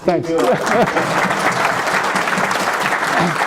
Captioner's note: applause